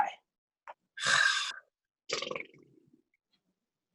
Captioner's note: sighs